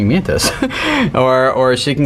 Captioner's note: chuckling